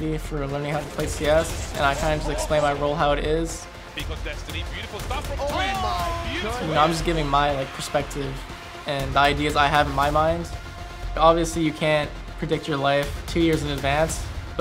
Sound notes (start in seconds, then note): 4.7 announcers cheer